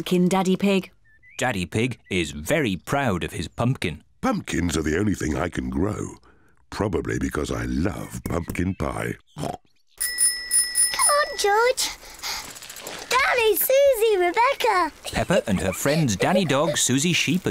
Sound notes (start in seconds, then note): 8.3 snorts; 10.0 bicycle bell rings